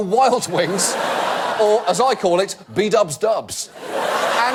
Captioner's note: audience laugh; audience laugh